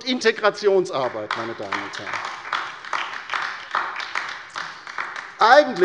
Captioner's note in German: Beifall bei der LINKEN